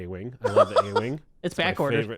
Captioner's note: laughing